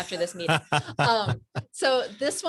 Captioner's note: laughs